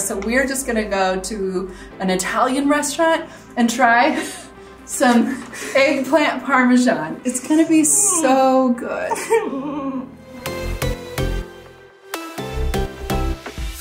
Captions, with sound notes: so we're just gonna go to an Italian restaurant and try (chuckles) some eggplant Parmesan. It's gonna be so good. (mock sobs) (bright upbeat music)